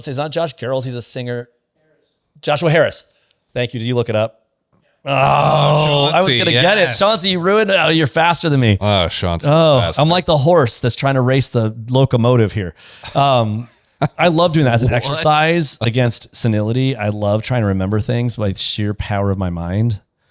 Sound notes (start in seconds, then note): 13.1 laughs